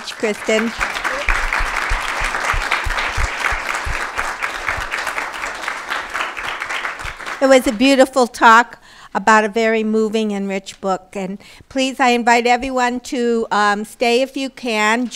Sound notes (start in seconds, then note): 3.7 applause